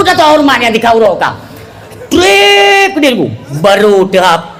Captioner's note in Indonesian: berteriak